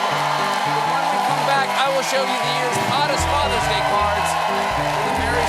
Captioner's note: cheers and applause